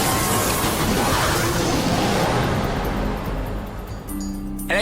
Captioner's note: yeti growling